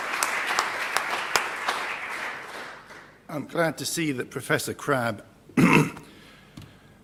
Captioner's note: applause; cough